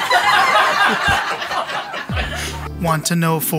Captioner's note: laughing